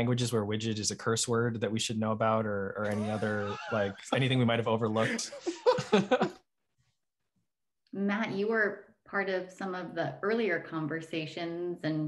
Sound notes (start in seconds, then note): 5.0 laughing